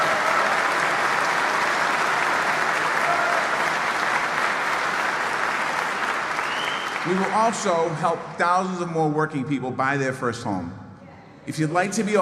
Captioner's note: applause